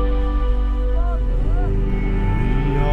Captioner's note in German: Einzelner Ruf